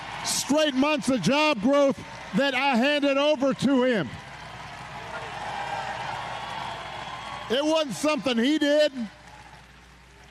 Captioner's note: cheers and applause